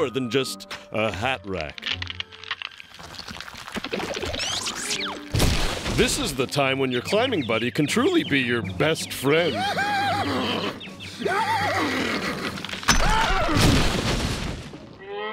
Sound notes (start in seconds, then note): 9.4 laughing